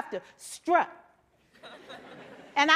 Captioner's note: laughter